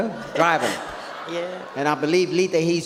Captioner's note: audience laughs